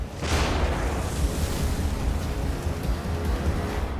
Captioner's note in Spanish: Explosión